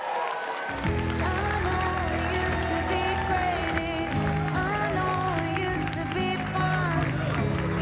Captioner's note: cheering and Applause